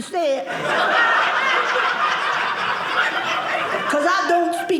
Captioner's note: audience laughing